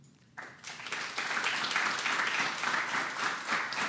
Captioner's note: applause